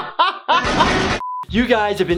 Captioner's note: laughing; gun shots